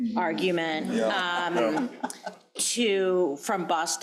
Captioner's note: crowd laughing